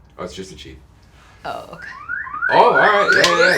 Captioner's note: sirens